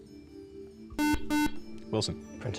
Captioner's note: beep